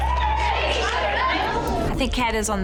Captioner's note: girls cheering